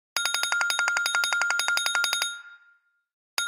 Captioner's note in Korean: 전화 벨소리